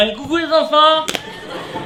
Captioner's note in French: Voix d'alcoolique